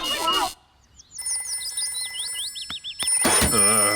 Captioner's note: phone rings